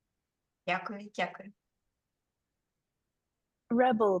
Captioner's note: speaking Ukrainian